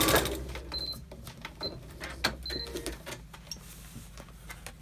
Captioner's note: machine beeps